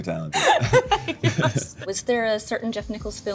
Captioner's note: laughs